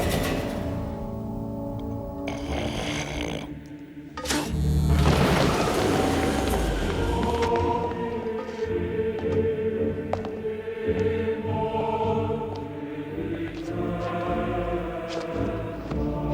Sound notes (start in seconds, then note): 2.2 snorting